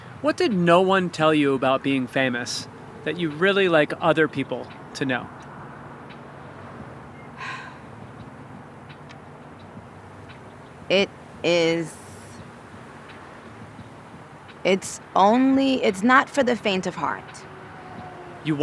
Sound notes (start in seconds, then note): 7.4 sighing